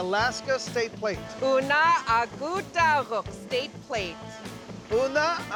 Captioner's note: speaking yupik